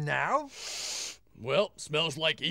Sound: sniffing

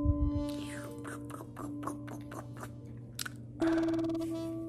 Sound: slurps

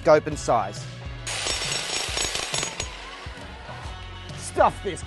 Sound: drill clattering

